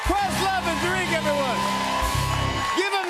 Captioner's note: cheers and applause